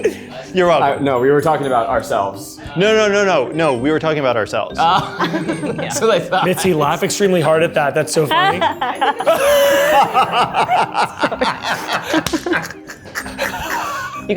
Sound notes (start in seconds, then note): 4.8 laughs; 8.3 laughs; 12.8 all laughing